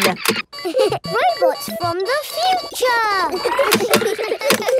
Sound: laughs; kids giggling

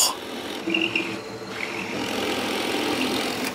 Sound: rattling drilling noises

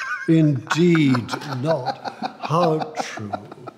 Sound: laughs

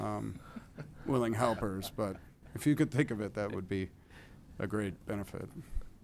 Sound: laughter

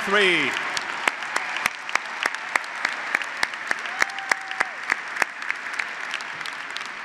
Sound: graduates and audience applauding

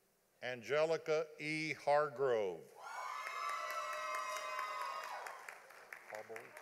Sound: audience applauding

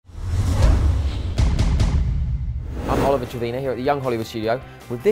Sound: screen swooshes

